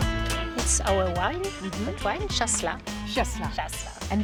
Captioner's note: speaks native language